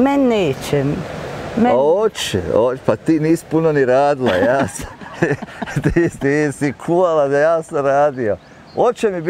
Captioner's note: laughs